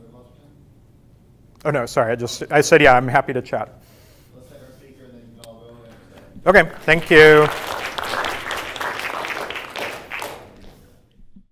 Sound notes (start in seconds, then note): 6.5 everyone claps